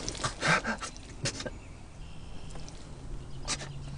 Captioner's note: gasping